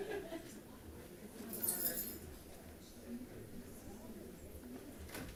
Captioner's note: attendant giggling; attendants chattering